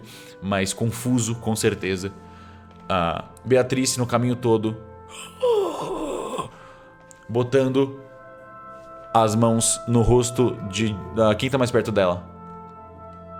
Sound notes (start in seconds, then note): 5.1 grunt